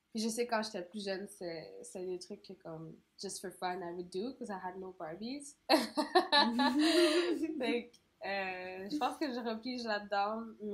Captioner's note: laugh